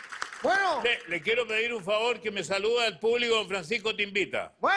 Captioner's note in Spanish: aplausos